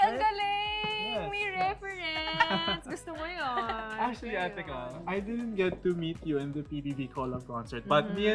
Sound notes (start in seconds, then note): 2.2 chuckling